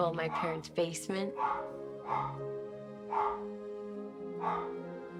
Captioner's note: dog barking